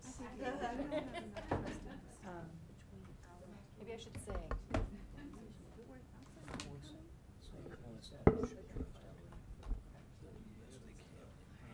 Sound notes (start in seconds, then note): 0.4 people laughing; 5.2 people murmuring